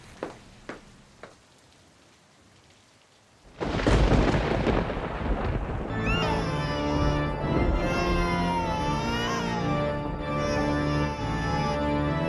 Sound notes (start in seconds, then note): 3.5 thunder crashing; 5.9 ominous organ music; 5.9 baby crying